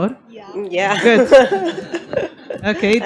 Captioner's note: laughs